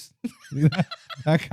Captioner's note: laughing